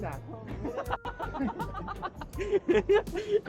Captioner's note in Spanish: Risas